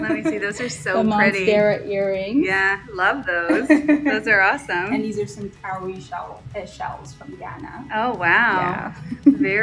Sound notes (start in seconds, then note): 0.0 laughs; 3.5 laughs